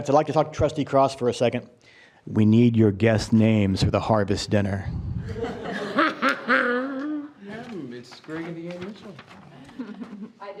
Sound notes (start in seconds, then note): 5.2 group laughing; 5.3 trustee laughing